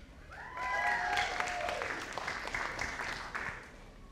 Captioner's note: audience applauding